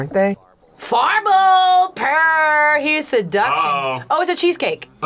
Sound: speaks Simlish

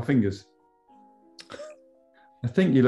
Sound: chuckles

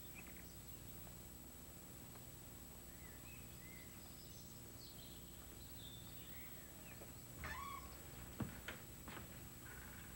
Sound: Gazouillement des oiseaux

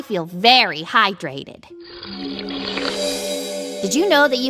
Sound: slurping

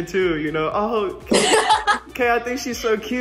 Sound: Kaylee laughing

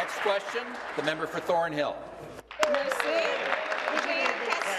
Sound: applause

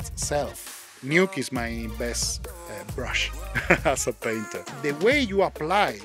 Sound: laughing

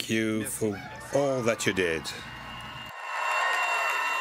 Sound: speaking French

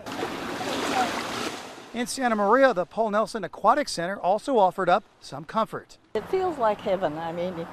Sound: pool water splashing

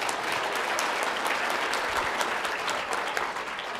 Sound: applause

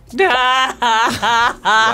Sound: crying

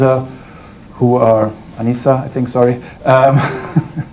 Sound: laughs

